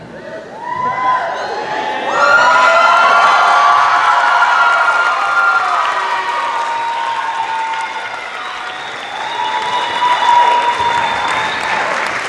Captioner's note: cheering